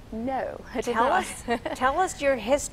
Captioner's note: laughs